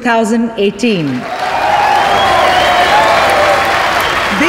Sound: all cheering, clapping

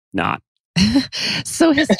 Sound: laughs

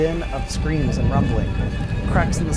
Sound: thunder rumbling

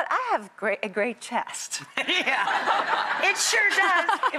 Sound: audience laughing

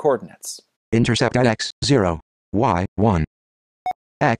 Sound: computer Voice

